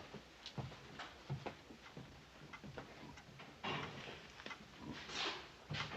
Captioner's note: ticking of the clock